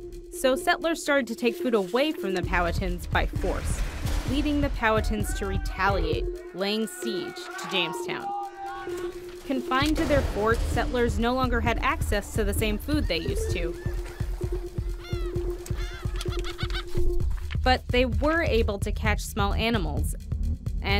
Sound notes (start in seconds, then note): 6.4 screaming; 15.1 bird calls